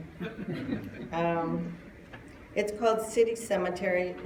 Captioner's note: laughter